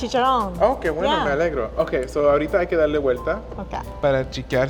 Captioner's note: speaking Spanish